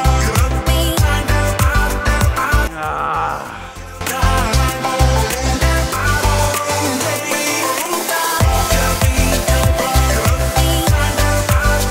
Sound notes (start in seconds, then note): 2.4 groans; 4.3 upbeat music